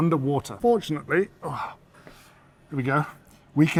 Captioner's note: grunts